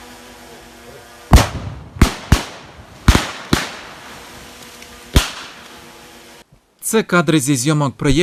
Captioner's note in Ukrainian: звуки вибухів